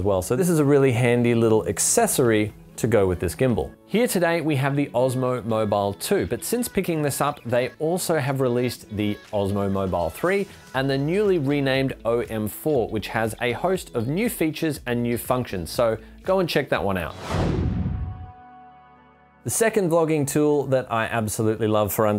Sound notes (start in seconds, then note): 17.1 swoosh